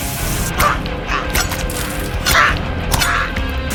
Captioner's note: Spencer moaning; dramatic music